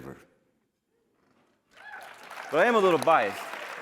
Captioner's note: cheering